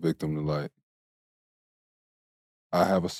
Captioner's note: none